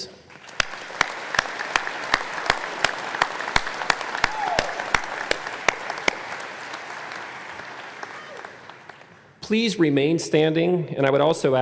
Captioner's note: applause